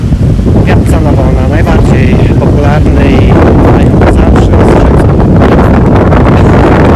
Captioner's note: wind!